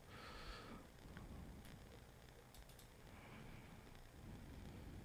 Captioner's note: mouse clicking